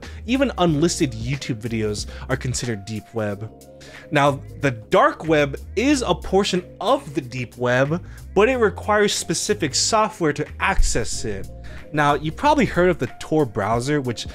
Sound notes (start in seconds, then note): none